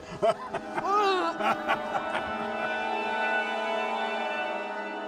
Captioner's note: Pappy laughs; dramatic music; Eleanor groans